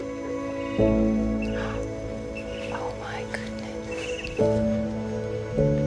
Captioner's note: gasps